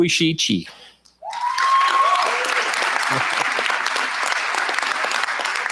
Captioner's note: cheers, applause